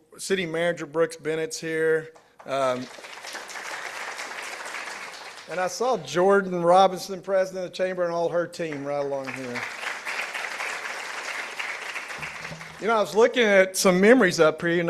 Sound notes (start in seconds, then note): 2.4 participants applauding; 10.5 participants applauding